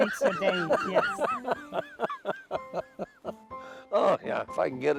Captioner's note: both laughing